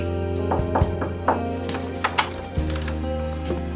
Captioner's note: knocking